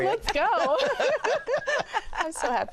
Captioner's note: laughter